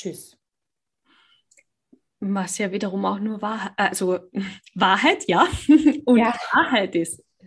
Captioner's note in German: lacht